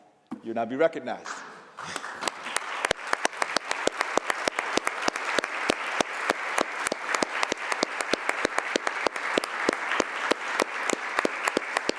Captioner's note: applause